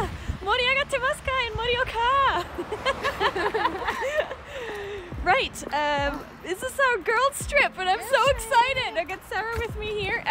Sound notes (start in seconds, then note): 2.4 laughter